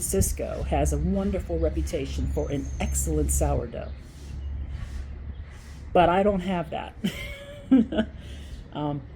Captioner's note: laugh